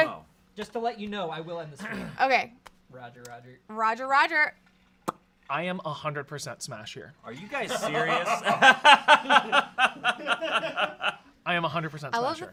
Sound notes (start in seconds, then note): 7.8 off-camera laughing